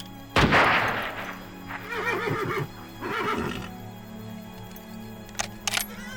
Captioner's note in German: Gewehrfeuer; Pferd wiehert